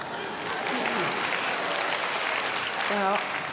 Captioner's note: applause